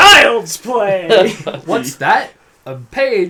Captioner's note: laughs